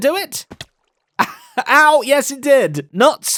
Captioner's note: laughs